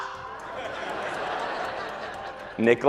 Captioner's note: audience laughs